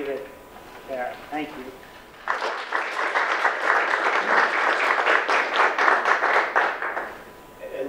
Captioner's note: audience applause